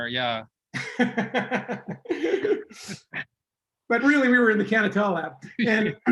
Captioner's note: laughs